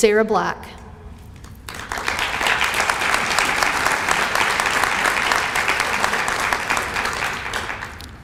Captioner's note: applause